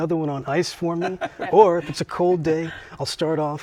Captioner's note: laughs